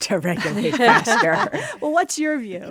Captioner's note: laughter